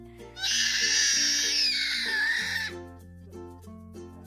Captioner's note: baby sounds